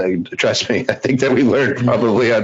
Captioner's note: laughs